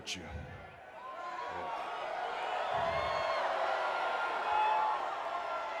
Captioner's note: crowd exclaiming